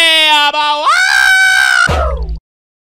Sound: screams

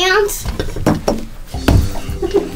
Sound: table rattles; giggles

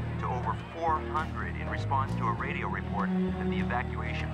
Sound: people cheering

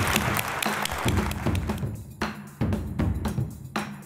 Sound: audience applauds

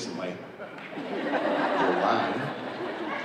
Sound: audience laughing

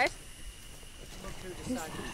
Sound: whispers

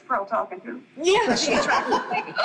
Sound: group laughing

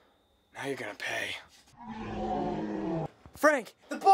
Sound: dinosaur sound effect

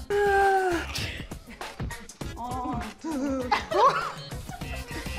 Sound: shocked gasping; light laughing

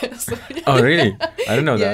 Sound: both laugh

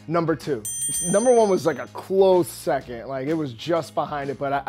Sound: bell dings

